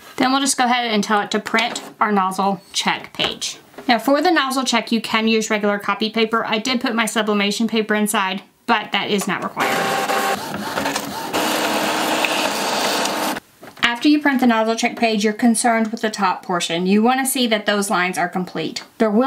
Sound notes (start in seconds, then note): 9.5 printer whirring